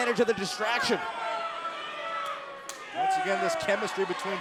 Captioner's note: crowd cheering